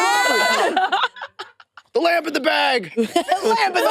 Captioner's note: participants laughing